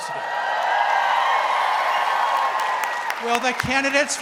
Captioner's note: audience cheering